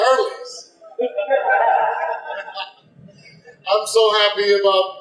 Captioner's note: audience laughter